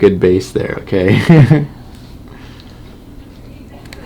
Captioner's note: laughing